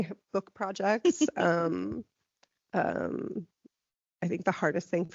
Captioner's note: laughing